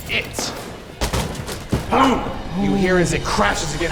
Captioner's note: clattering